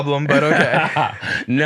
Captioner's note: laughs